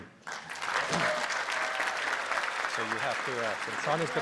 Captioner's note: applause